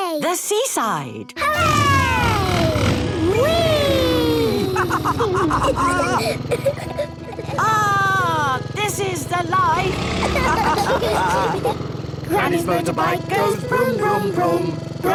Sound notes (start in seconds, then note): 5.2 laughs